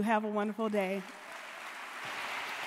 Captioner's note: audience applauding